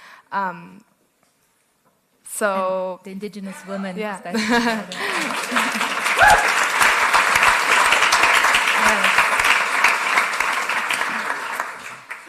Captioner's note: cheering/Applause